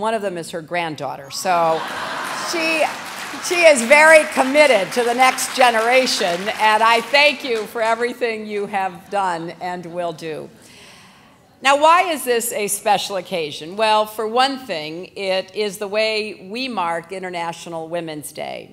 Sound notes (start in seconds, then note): 1.7 laughter